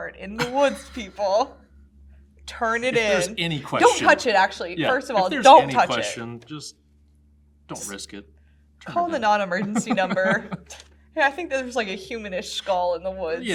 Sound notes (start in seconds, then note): 9.6 laughs